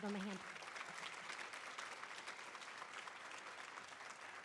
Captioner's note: audience applauding